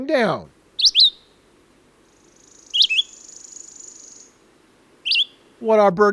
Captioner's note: bird song